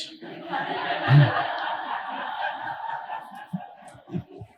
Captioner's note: audience laughing